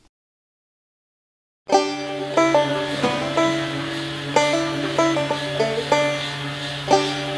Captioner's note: bright upbeat music; grinder revving